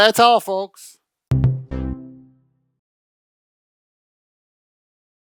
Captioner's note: electronic tone